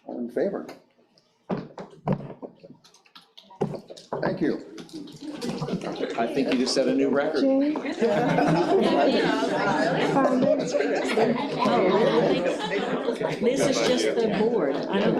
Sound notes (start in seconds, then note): 7.7 members chuckling; 8.7 all chattering